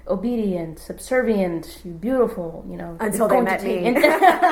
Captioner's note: laughs